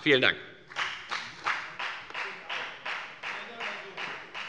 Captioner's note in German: Beifall bei der FDP